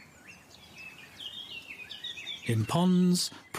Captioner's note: birds chirping